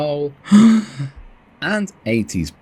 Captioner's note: gasp